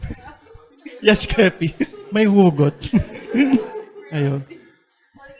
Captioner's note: chuckles